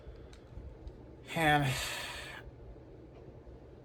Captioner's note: Ava sighs